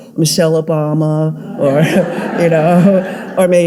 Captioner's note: audience laughing